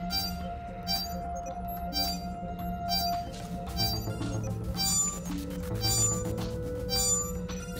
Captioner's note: scanner sounds